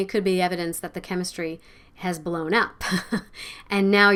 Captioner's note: chuckles